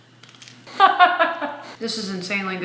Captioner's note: laughing